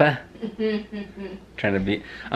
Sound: laughs

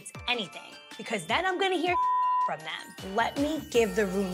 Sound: beep

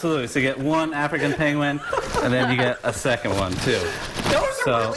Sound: laughter

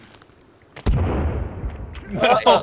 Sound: explosion; laughter

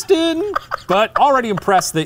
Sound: laughing

